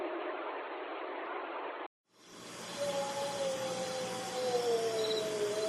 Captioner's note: creature continues vocalizing